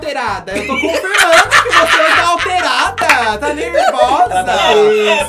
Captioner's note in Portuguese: risos